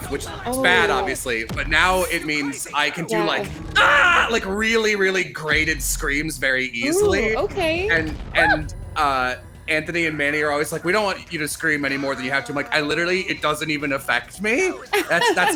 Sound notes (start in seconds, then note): 3.7 screams